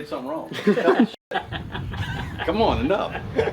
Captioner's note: laughter